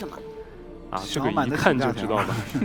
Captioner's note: laughs